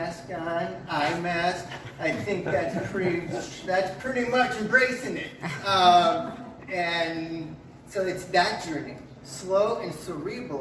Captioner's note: chuckles in background; laughter from audience members